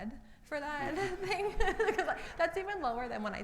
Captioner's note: laughs